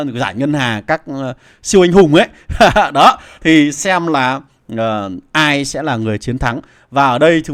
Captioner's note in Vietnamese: tiếng cười